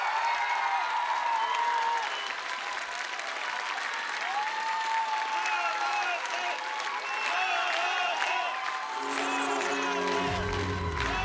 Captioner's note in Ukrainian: оплески